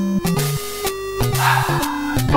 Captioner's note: sigh